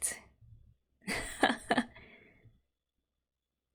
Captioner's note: laughs